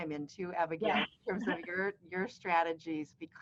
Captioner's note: laughing